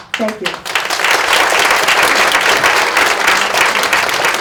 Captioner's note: audience applauds